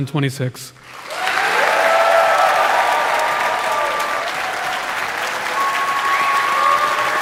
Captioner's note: audience applauding; audience cheering